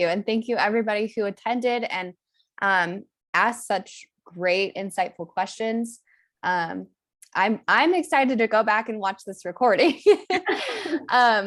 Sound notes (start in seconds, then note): 9.9 laughter